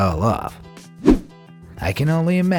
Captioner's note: air whooshing